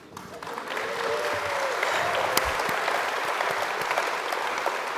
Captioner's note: audience applauds and cheers